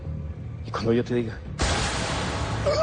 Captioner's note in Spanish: Disparo; Grito ahogado